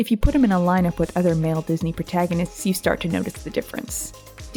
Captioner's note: none